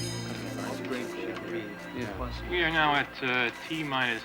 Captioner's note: chattering